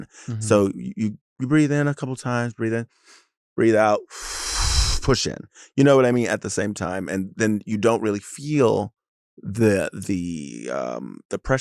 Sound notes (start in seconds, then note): 4.1 exhales heavily; 4.1 inhales